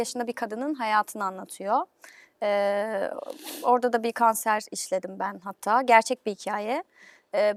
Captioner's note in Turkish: homurdanır